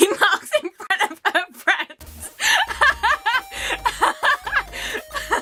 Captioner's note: laughing uncontrollably for some reason